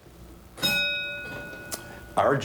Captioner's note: bell dings